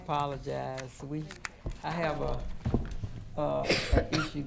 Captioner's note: speaking quietly; speaking quietly; attendee coughing